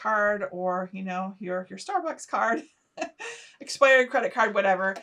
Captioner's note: chuckling